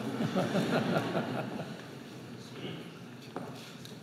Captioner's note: laughter